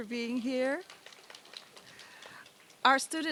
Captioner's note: applause